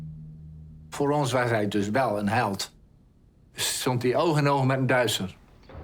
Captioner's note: speaking foreign language